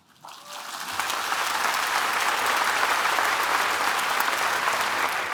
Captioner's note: applause